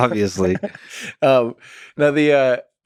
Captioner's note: Tim laughs